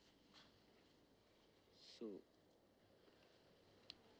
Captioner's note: man speaks in turkish